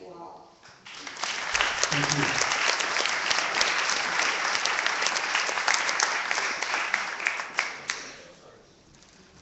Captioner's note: clapping